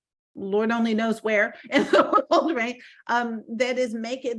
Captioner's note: laughing